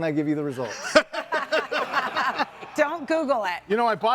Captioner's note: all laughing